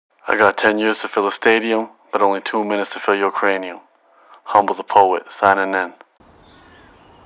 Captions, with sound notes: - [Voiceover] I got 10 years to fill a stadium but only two minutes to fill your cranium. Humble, The Poet, signing in.